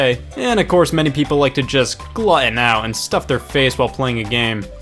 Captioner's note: none